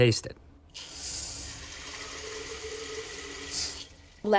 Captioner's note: sound of water filling up glass